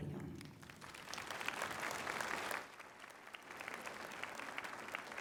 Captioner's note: applause